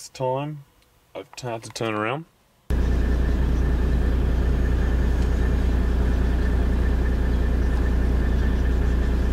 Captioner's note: birds chirping